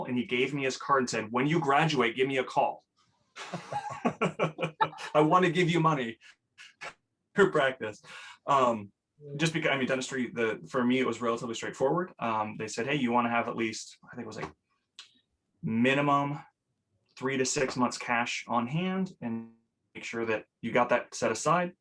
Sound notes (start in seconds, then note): 3.4 laughs